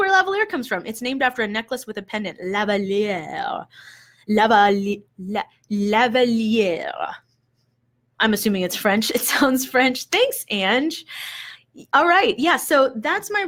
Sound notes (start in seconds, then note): 5.5 speaks with a French accent